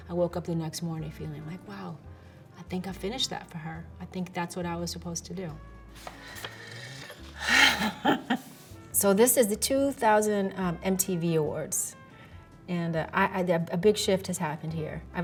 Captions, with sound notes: I woke up the next morning feeling like, "Wow, I think I finished that for her. "I think that's what I was supposed to do." [chuckles] So this is the 2000 MTV Awards, and a big shift has happened here.